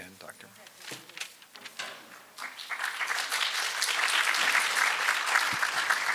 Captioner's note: applause